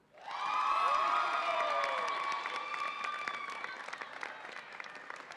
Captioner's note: audience applauds and cheers